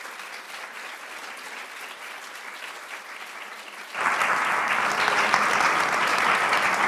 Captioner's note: applauds